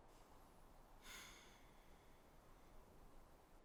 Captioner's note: Ellie sighs